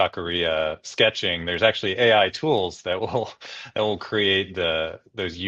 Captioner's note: laughs